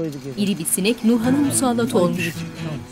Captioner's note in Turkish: Sinek vızıltı sesi